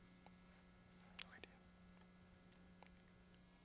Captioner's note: whispers